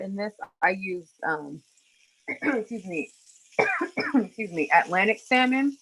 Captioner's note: coughs